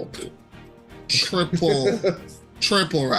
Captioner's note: laughs